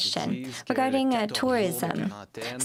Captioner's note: speaking French